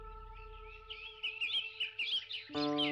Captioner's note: birds chirping